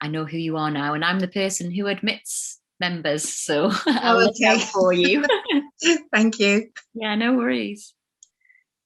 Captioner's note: laughs